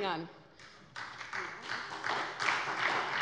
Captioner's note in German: Beifall bei der SPD